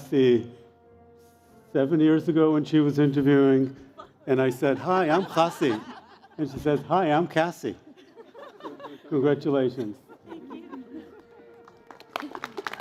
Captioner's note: cheers and Applause